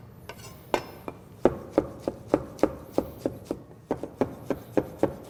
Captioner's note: chopping sounds